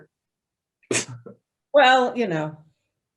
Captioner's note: laughs